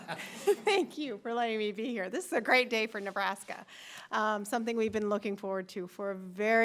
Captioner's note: laughter